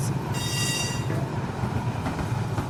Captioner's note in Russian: трамвайный звонок